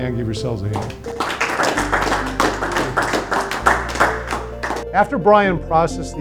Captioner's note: attendees applauding